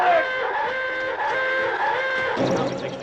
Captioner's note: alarm blaring